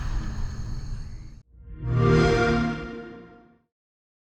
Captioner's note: xbox sound